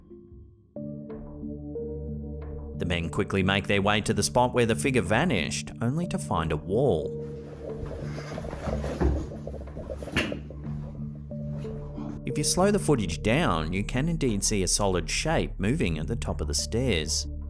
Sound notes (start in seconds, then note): 2.7 gentle eerie music; 7.5 investigators rustling